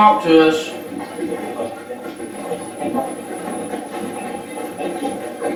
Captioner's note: static playback transmitting